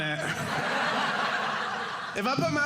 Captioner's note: audience laughing